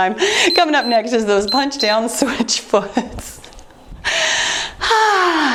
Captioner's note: timer beeps; chuckles